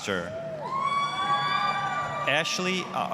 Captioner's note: applause, cheering